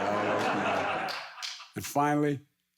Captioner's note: audience laughs